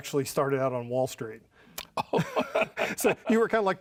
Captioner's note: chuckles